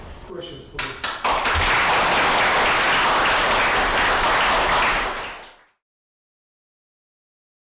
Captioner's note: applause